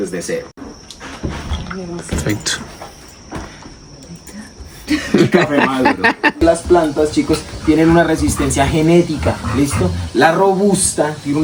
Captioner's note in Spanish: risas